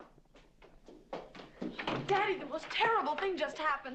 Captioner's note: footsteps pattering